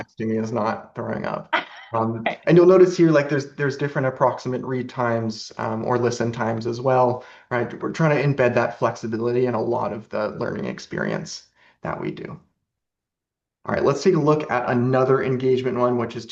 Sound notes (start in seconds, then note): 1.6 laughs